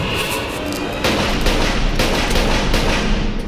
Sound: gunshots

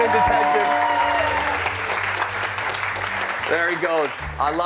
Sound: cheers and applause

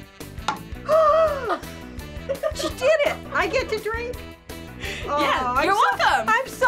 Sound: gasps

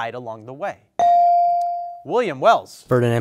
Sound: bell dings

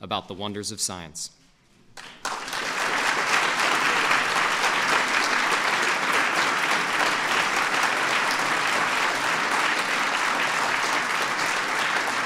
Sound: applause

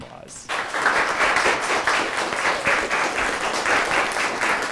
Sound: audience applauds

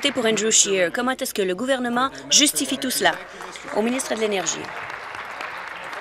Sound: applause

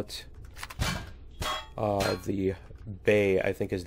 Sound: pinging

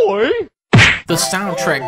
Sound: punch

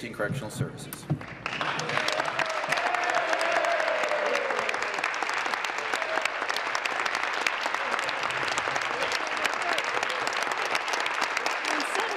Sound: some Applause

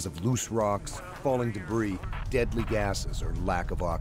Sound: voiceover

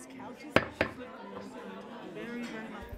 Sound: gavel pounding

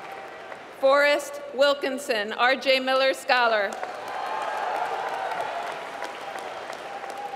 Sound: applause

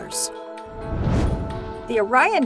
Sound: whoosh

